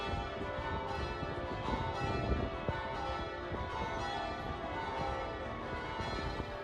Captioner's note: bells chiming; wind rustles